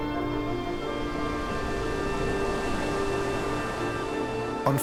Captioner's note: waves crashing